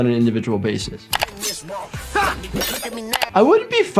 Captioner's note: knife slashes; man grunts